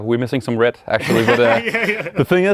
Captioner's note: laughs